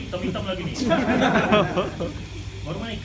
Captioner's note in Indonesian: Jama'ah tertawa